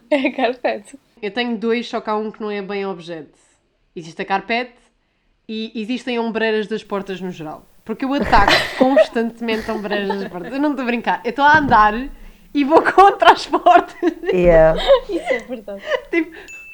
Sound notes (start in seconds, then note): 10.1 laughs; 13.9 laughs